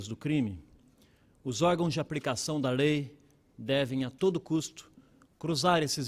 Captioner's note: speaking Portugese